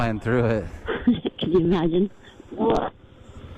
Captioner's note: laughing